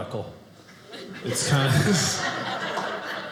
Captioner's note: audience laughing